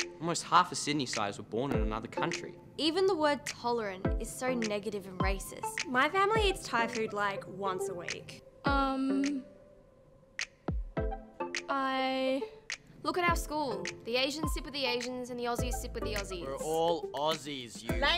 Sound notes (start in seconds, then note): none